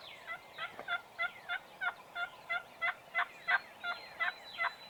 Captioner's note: turkey gobbles; turkey yelps